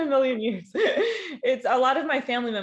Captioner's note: laughing